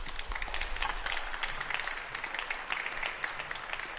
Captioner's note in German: Beifall